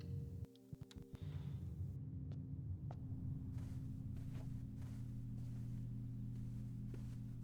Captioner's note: footsteps